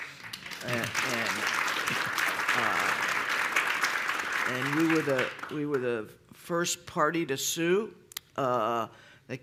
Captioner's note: applause